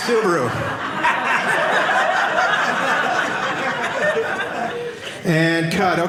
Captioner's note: audience laughing